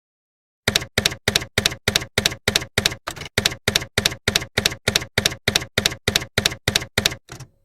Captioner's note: typewriter keys clacking